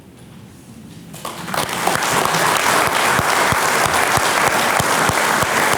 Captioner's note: audience applauding